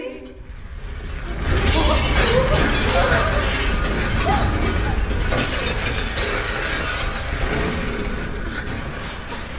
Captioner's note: LOUD RUMBLE and CRASH